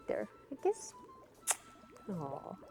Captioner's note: kissing